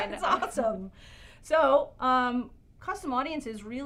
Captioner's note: laugh